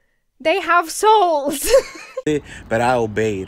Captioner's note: laughs